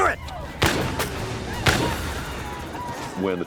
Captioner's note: gunshots